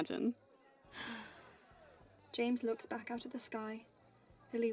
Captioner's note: James sighs